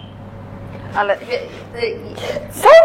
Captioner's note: stutters